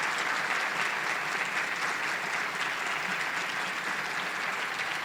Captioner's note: audience applauding